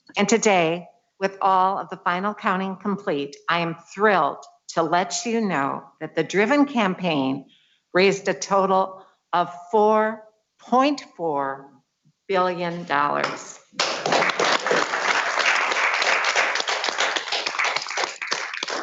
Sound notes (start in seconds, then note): 13.7 audience clapping